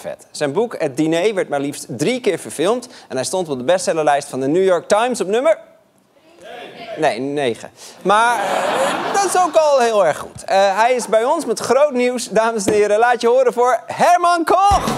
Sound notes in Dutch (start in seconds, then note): 8.3 gelach